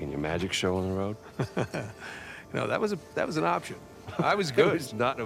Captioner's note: laughs; laughs